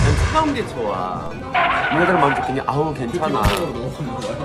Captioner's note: Bam-a tapping a cushion